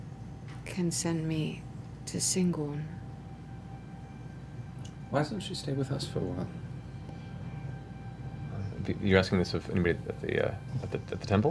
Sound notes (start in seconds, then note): none